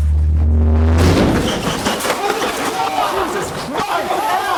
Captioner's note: loud bang